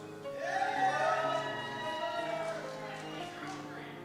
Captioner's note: cheers